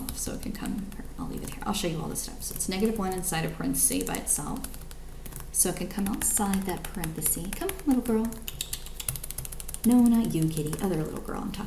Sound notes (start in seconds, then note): 8.4 tongue clicking